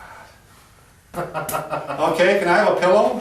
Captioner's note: laughing